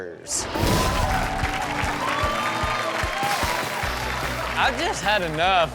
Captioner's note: upbeat music; audience cheering